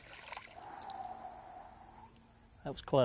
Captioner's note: exhales